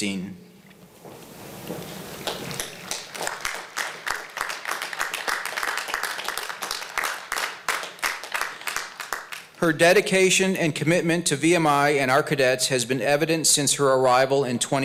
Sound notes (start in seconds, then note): 2.2 applause